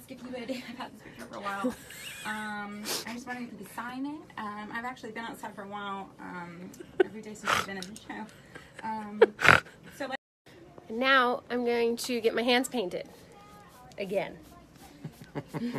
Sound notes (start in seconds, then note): 9.0 laughs and snorts